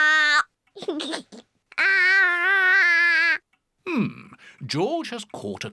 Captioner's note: giggles